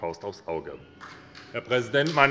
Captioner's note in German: Beifall bei der SPD